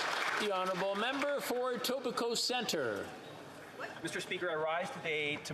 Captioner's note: applause